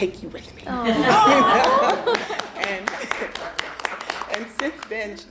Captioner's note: women cheer and applaud